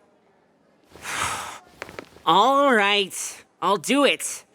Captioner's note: sighs